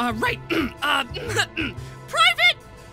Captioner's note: clears throat; in a high pitched voice